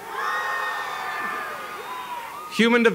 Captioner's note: applause